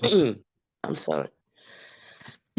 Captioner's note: participant clears throat